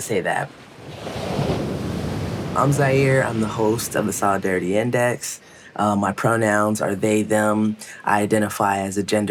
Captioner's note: wave surging